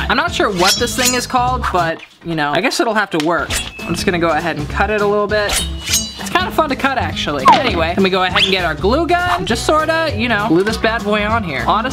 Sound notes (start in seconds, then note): 5.5 snipping